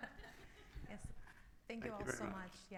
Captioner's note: all laughing